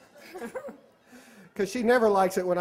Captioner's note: laughter